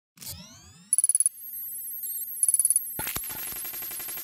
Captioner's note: electronic beeping